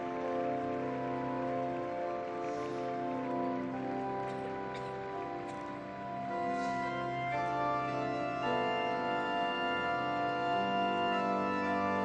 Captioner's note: organ music playing; applause